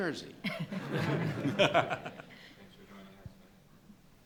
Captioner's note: laughter